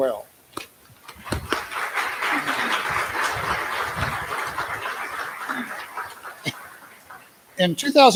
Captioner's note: applause